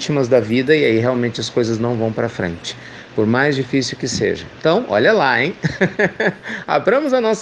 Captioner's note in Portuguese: Risos